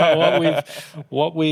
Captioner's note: laughter